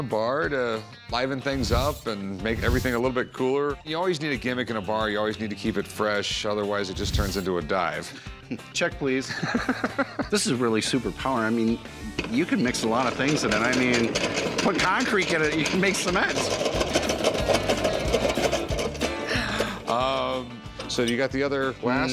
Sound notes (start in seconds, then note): 9.3 laughs; 16.0 loud whirring